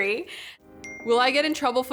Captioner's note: ping